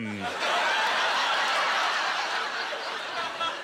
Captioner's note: laughter